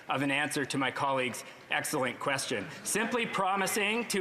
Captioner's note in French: voix de l'interprète